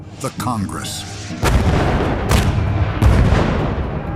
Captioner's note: gunfire